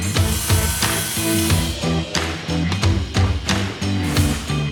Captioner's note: saw buzzing loudly; nails shooting powerfully